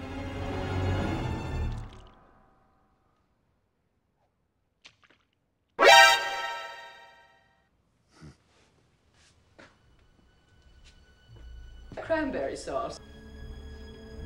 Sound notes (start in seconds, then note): 5.8 metal gear solid alert noise